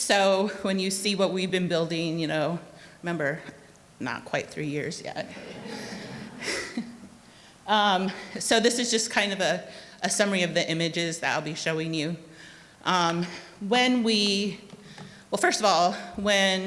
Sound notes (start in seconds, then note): 5.2 audience laughing; 6.9 chuckles